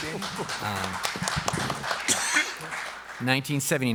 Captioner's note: applause